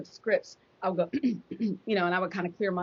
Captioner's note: mimics clearing throat